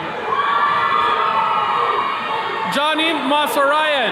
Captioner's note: attendees cheering